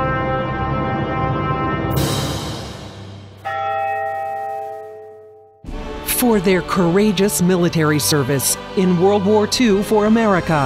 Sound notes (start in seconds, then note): 3.5 bell tolls